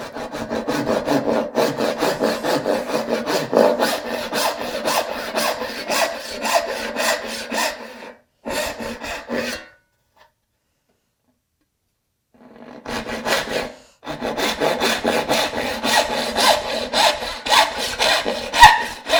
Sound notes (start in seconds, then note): 0.0 saw on wood rhythmically rasping; 14.0 saw on wood rhythmically rasping